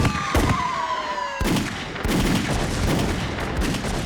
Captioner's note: gunfire